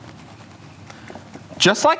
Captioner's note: cake smushing